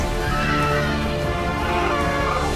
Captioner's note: screams; growls